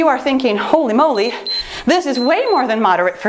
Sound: timer beeps

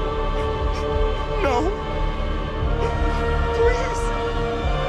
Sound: crying

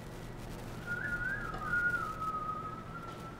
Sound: whistling

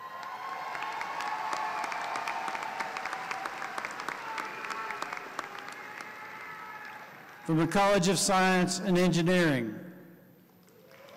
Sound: applause

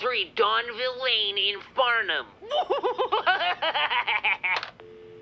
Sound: maniacal laughing; dial tone humming

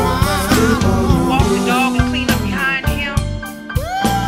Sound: woman on phone

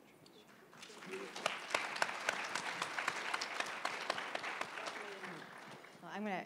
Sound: applause

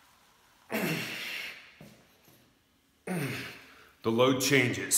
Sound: grunting

